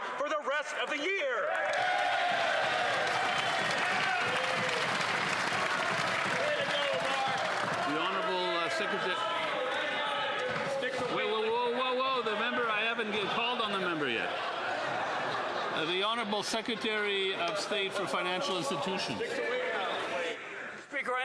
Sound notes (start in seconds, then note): 9.7 some Applause